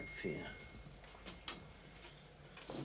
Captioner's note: mutters